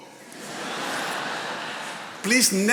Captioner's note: attendees laughing